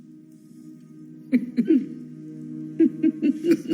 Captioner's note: both chuckling